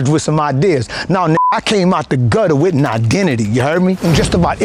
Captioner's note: beep